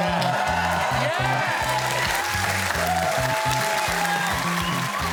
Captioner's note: cheers and applause